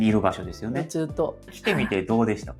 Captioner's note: laughs